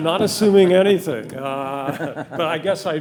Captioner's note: laughing